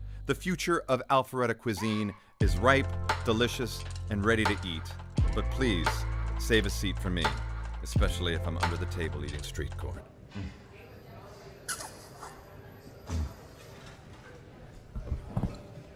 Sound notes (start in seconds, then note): 11.6 lips smack